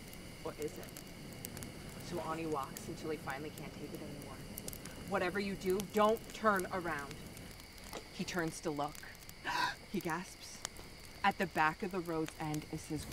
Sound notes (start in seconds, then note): 9.4 gasp